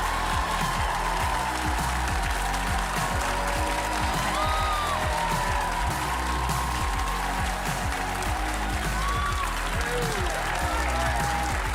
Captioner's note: applause